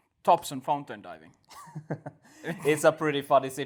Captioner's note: laughs